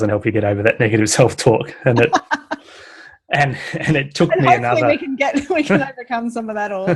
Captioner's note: laughs